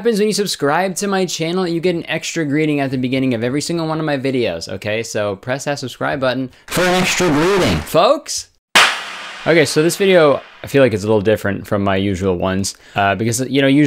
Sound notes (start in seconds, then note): 6.8 in a voice over effect; 8.7 clapping effect